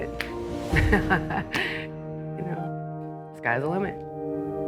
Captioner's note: chuckling